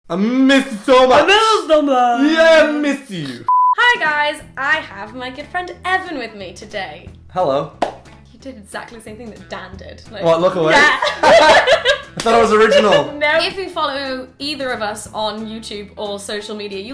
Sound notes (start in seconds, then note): 3.5 beeps; 10.7 laughing